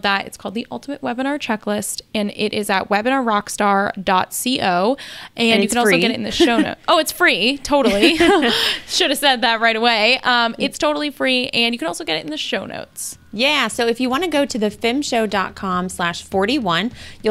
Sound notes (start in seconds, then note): 5.5 laughs; 7.8 both laugh